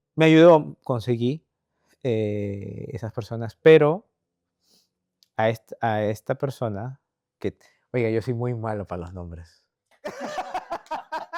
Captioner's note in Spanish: risas